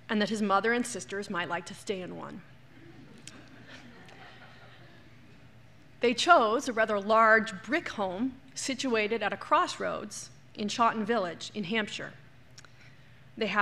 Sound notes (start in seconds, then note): 3.0 laughter